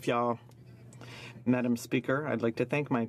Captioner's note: speaking French